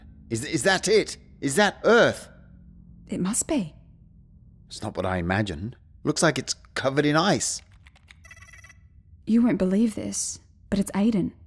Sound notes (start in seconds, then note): 7.5 Jenna types, computer beeps